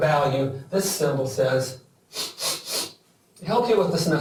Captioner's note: sniffs